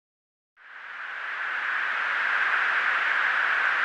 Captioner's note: static